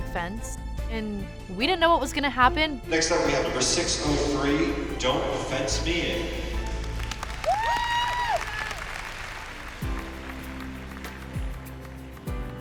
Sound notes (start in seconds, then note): 6.6 cheers and applause; 8.3 cheerful instrumental music playing